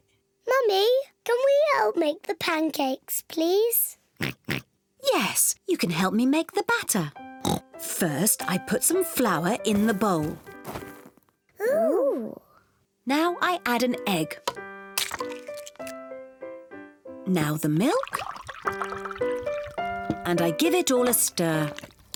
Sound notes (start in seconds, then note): 4.2 oinks; 7.4 oinks